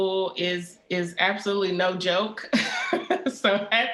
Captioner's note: laughs